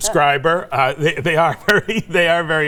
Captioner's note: chuckling